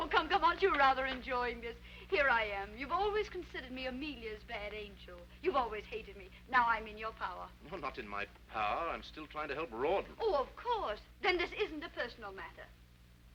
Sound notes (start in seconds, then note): none